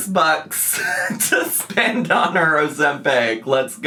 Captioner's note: laughing